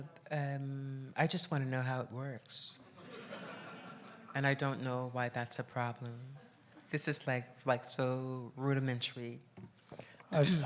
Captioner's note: laughs